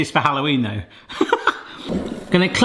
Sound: laughs

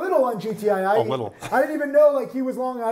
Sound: chuckles

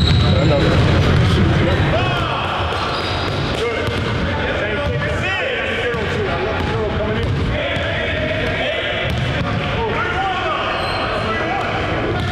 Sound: gym noise

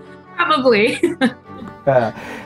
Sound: laughs

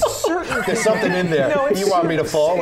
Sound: laughter

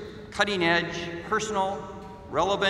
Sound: none

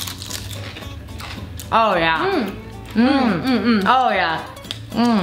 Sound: chewing noises

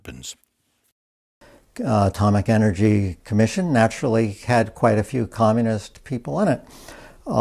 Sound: French

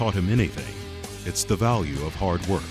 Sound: voiceover

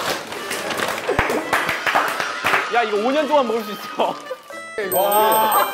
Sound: claps

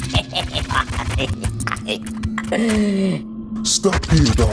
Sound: McKraken laughs

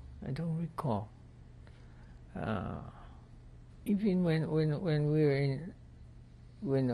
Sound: pauses for 3 seconds

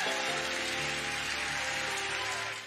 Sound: congregation cheering and clapping

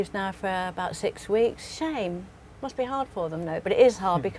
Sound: laugh

